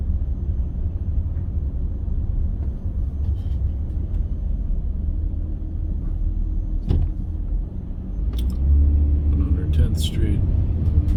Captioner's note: rustling, road noise